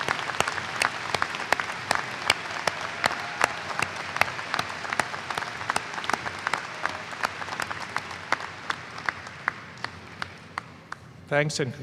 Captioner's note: applause